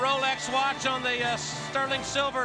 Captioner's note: crowd cheering